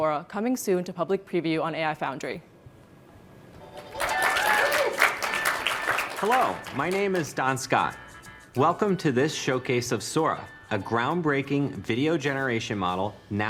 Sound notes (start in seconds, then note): 3.7 applause